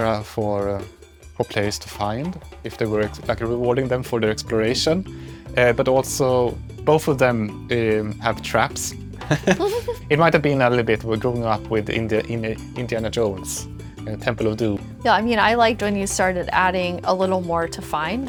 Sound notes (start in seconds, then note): 9.2 laughs